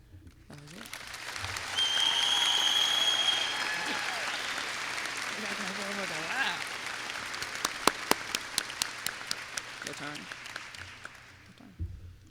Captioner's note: applause